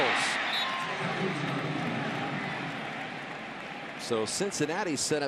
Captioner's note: whistle blows; pa announcement